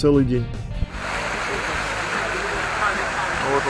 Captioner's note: noise of fountains and crowd